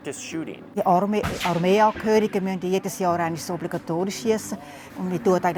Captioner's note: speaking foreign language